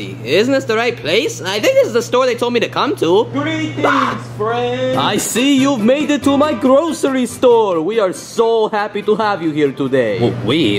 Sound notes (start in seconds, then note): 3.3 Luigi yells